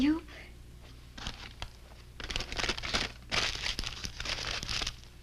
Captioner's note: paper crinkling